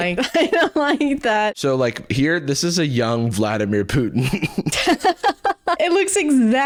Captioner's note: laughs